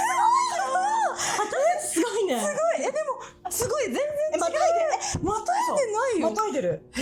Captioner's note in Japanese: 笑い